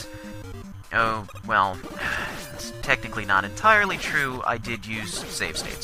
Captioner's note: sigh